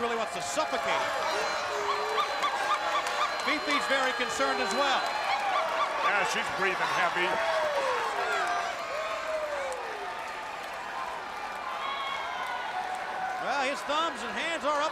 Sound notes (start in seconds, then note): 3.0 crowd cheering; 7.4 crowd cheering; 8.4 crowd chatter